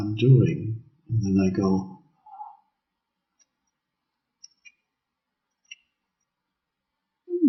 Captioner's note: gasps